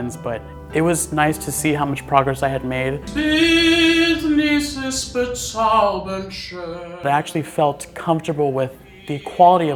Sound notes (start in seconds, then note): 3.1 non-english speech; 3.1 singing